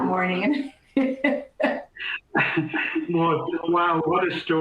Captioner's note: laughter